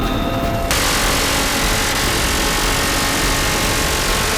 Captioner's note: gunfire and explosions